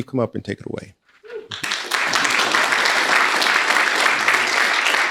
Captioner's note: people applauding